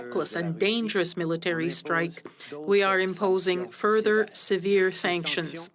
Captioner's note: speaking French